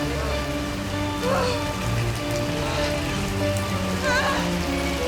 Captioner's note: Lilly gasping deeply